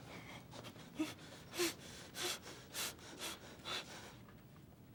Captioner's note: hyperventilating